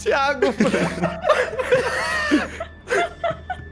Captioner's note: everyone laughing